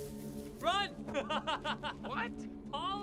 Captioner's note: laughs